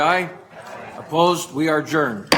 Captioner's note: multiple voices